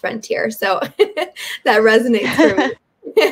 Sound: giggles

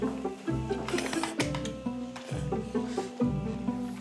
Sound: slurp

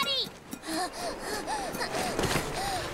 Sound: gasping

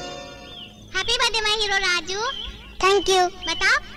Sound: birds Chirping

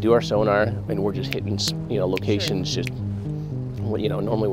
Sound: snapping

